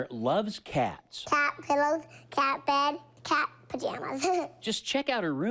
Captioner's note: chuckles